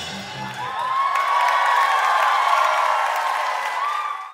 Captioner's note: cheering and clapping